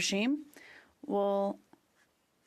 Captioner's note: speaking French